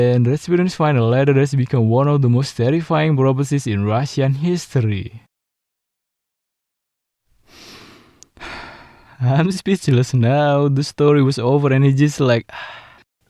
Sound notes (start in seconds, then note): 7.4 breathing